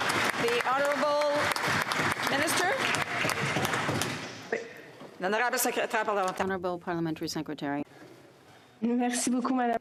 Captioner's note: some Applause